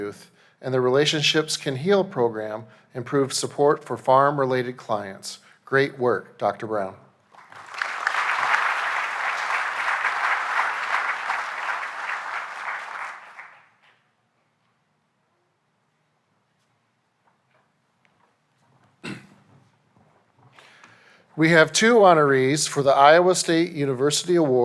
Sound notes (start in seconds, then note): 9.7 applause